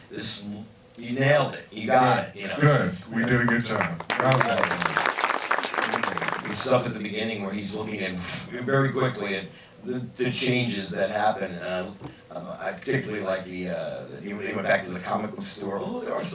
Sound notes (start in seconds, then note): 3.2 crowd applauds